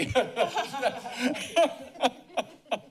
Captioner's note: laughs